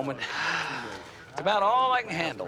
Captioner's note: sighs